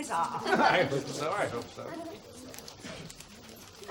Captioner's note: laughs